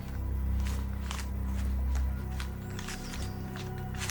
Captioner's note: footsteps thumping